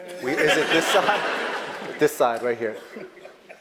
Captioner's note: laugh